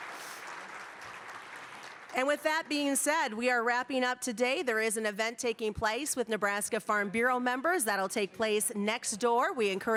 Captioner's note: applause